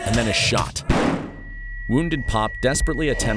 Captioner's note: gun bangs